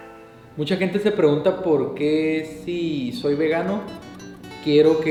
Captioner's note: soft music; speaking Spanish